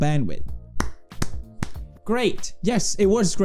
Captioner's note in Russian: хлоп хлоп хлоп